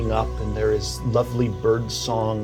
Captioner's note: birds chirping